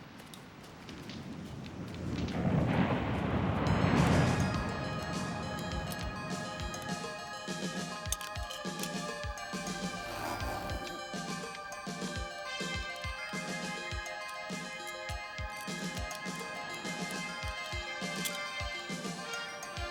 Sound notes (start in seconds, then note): 2.4 waves crashing; 4.3 dramatic music